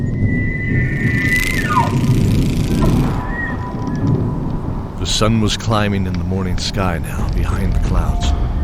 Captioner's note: environment transition desert wind